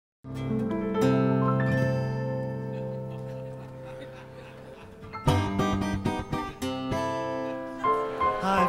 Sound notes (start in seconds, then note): 2.5 audience chuckling